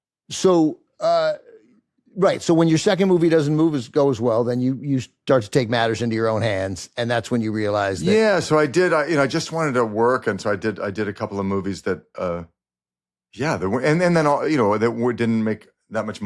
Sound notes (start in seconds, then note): none